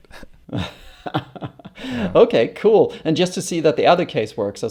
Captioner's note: laughs